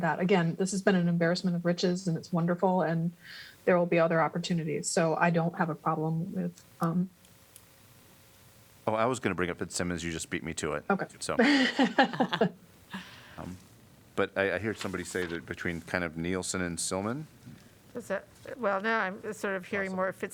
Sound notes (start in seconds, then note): 11.4 laughter